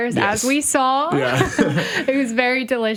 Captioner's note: both laugh